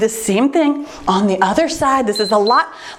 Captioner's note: timer beeps